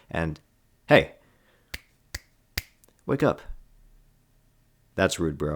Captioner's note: snapping